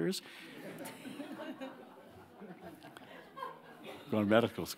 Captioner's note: audience laughing